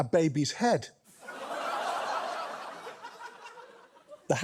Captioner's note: studio audience laughs